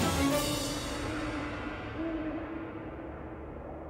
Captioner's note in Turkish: Baykuş sesi